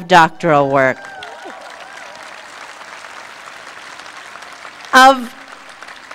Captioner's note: applause